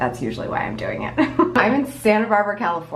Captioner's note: laughing